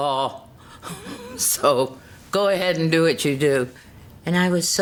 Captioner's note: chuckles